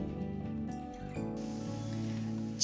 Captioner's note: sizzling